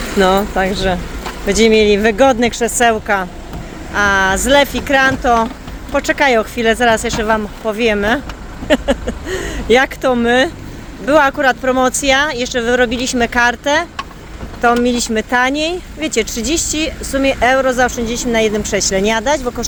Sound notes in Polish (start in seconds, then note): 8.6 śmiech